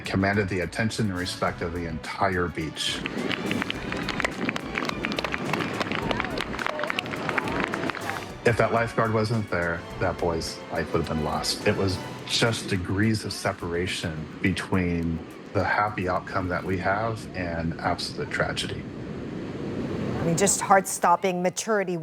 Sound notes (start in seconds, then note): 7.7 applause